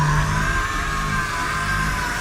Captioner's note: screaming